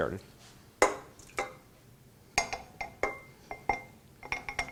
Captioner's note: metal clinking